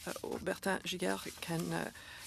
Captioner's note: speaking French